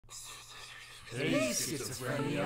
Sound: whispering

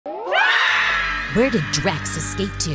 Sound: screaming

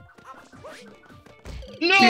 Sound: laughs

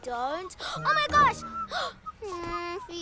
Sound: gasps

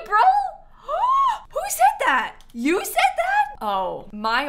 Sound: gasps

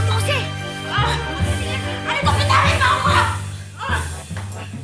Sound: Lupita grunting

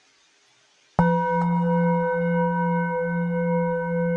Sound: bells dings

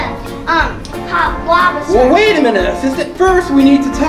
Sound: voiceover

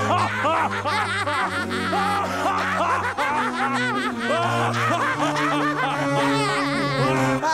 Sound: laughing

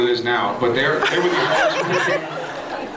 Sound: laughs

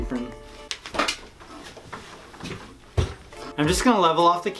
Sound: shuffling items around

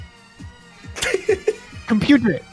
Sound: laughs

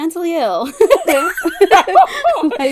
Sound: laugh

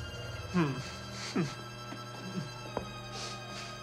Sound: whimpers

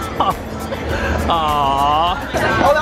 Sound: laughing

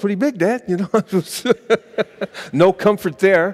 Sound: laughing

